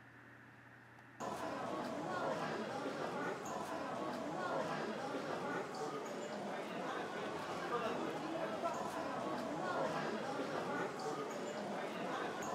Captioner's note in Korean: 시끄러운 사람들 소리